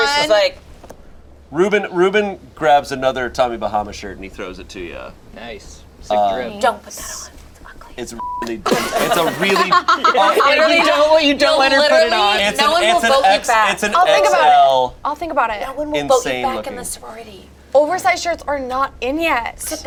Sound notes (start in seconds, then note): 8.2 beep; 8.6 group laughs; 10.6 overlapping chatter